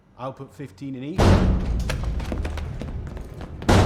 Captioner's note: loud banging on door